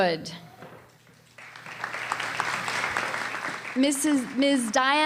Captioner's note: applause